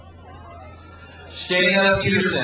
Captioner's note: crowd cheers